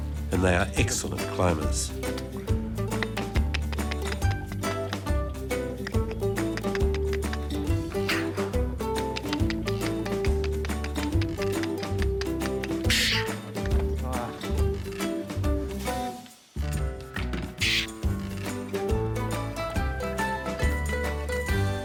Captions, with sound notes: and they are excellent climbers. (upbeat music) (tongue clicking) (hissing) (upbeat music)